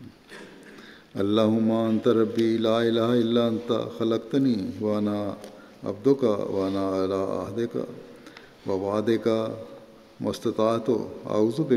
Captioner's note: Arabic